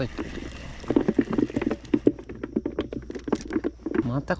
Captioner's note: the sound of barracuda thrashing in the cooler